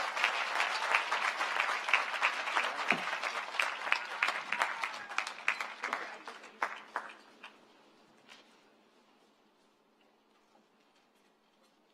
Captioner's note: cheering and applause